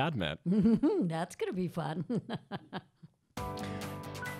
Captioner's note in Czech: Chichotá se